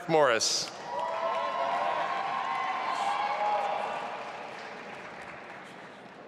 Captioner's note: audience applauding and cheering